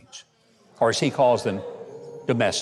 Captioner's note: audience booing